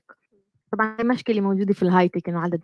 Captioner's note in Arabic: لغة أجنبية